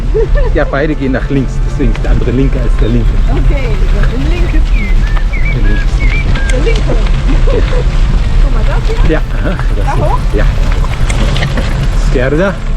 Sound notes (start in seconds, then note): 7.2 laughter